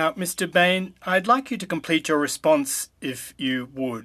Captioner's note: speaking french